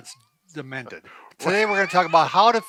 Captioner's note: laughs